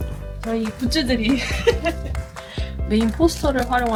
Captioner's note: laughter